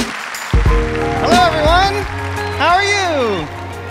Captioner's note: applause